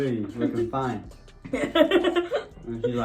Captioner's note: laughs